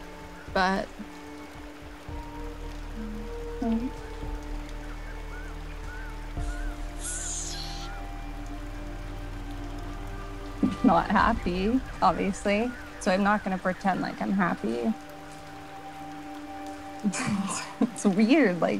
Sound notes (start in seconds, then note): 1.7 dramatic music; 6.6 inhales sharply; 17.0 laughs